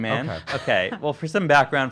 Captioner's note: chuckles